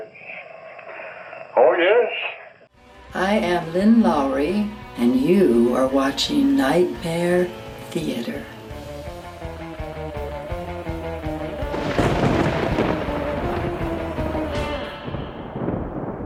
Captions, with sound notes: Yes. Oh, yes. - I am Lynn Lowry and you are watching Nightmare Theater. (upbeat music) (thunder crashes)